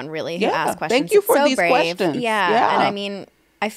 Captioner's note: overlapping chatter